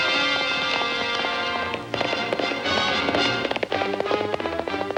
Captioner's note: suspenseful music; horses galloping